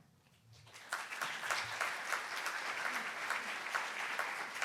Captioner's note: handclaps